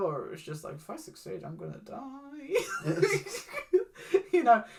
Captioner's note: laughs